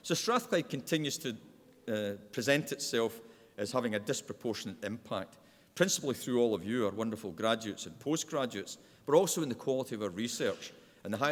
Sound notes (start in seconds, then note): none